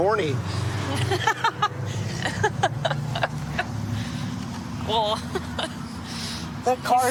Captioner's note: laughing